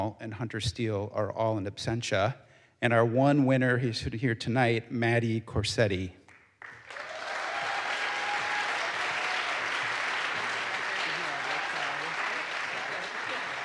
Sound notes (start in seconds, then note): 6.6 audience applauds; 6.8 audience cheers